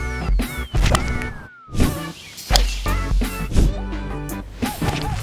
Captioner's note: relaxed music; golf club whooshing